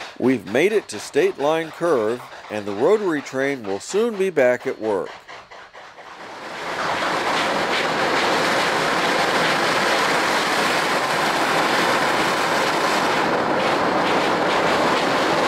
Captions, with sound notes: We've made it to State Line Curve and the rotary train will soon be back at work. [Staccato rotary chugging] [Steady locomotive chugging]